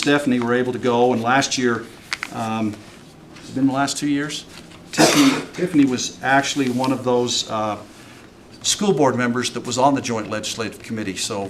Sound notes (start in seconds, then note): 5.0 clears throat and snorts